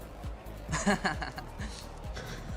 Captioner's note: laughing